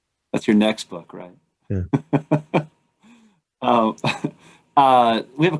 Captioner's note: laughter